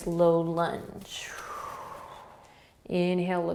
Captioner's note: exhaling